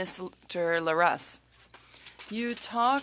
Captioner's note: speaking French